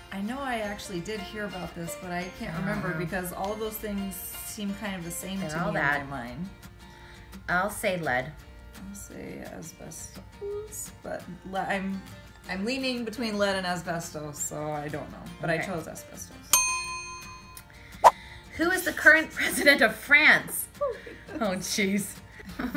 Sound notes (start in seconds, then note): 16.5 dinging